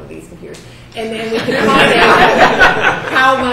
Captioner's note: students laughing